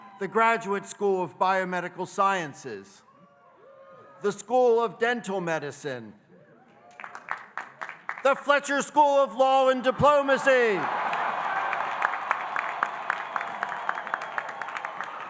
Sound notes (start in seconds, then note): 3.3 audience cheering; 6.8 audience cheering and applauding; 9.6 audience cheering and applauding